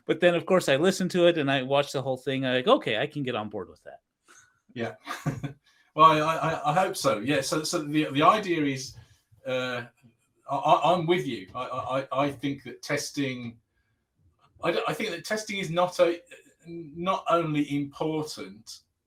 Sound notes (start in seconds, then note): 6.0 laughing; 8.3 abbreviated speech